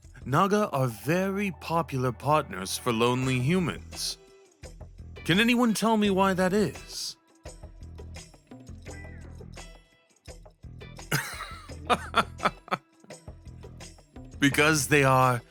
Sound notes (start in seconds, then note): 7.8 he barks out a laugh